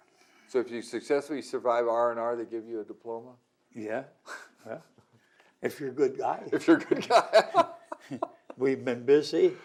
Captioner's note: laughter